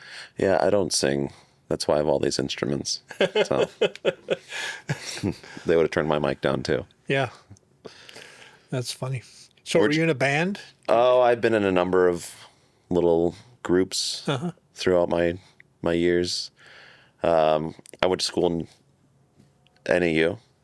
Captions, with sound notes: Yeah, I don't sing. That's why I have all these instruments. (laughing) They would have turned my mic down too. Yeah, that's funny. So are you in a band? Oh, I've been in a number of little groups throughout my years. I went to school in NAU